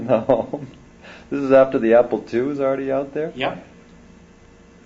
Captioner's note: laughs